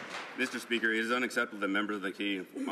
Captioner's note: some Applause